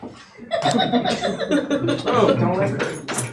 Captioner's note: laughing